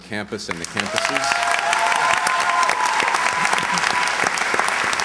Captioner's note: cheers, applause